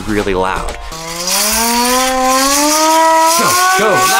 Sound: siren

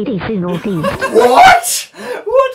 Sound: laughs

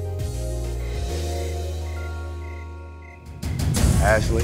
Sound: laughs; crickets chirping

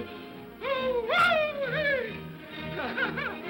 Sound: Scrooge whoops; laughs

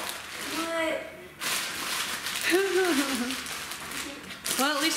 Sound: laughing

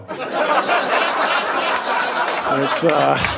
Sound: audience laughing

